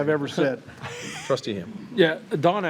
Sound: trustees chuckling

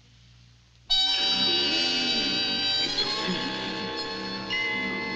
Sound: grunting

